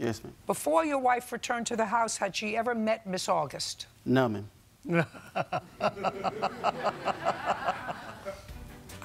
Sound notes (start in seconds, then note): 4.9 laughs